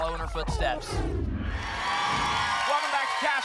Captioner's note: applause and cheering